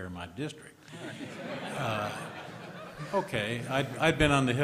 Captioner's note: laughter